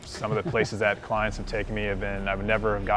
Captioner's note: laughs